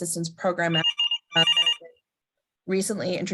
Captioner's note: phone ringing